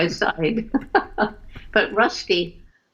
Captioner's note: laughter